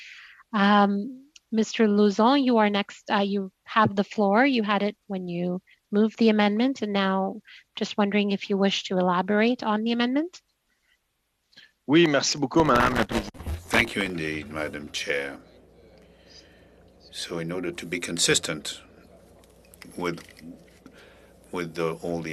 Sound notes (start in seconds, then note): 15.8 speaking French